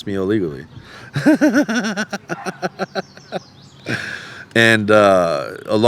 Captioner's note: laughing